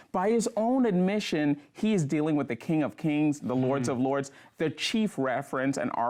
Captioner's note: none